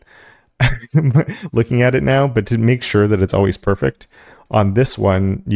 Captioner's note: laugh